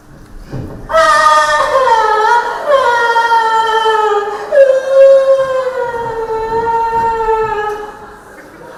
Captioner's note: cries